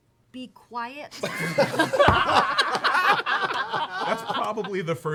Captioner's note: laughter